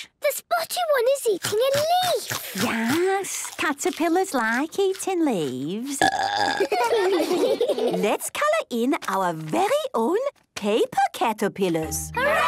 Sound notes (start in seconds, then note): 5.9 burping; 6.4 children giggling